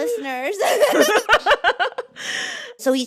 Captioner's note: laughter